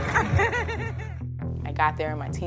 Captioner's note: laughs